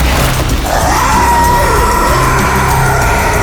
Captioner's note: zombies growling; gun firing; zombies growling